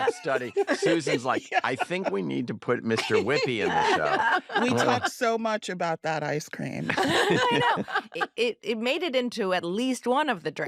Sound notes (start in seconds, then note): 6.8 all laugh